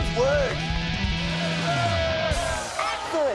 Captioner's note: crowd cheering